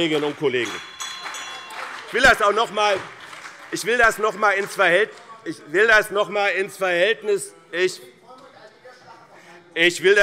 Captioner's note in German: Beifall BÜNDNIS 90/DIE GRÜNEN und CDU - Zurufe SPD - Glockenzeichen